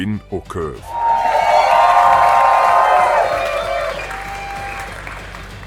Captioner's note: audience cheering